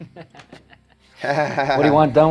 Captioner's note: laughs sarcastically